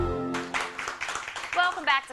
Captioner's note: applause